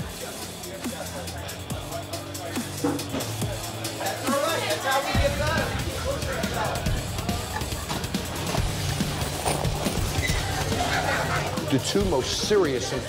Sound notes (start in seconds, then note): 10.5 laughter